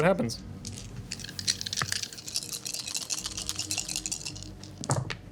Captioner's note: dice rattling